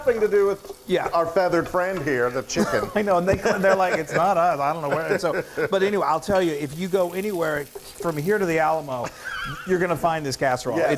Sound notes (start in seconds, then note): 2.5 laughter; 9.1 wheezing